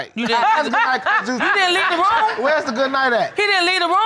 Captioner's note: laughing; audience laughing